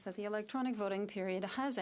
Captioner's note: speaking French